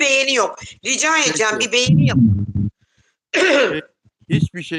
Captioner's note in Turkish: boğazını temizler